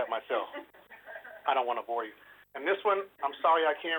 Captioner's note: laughter